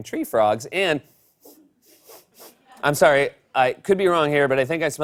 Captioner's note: sniffing